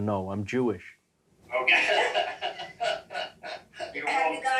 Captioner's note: laughing